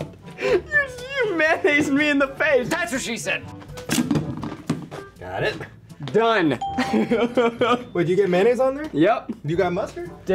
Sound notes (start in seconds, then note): 6.6 ding; 6.8 laughs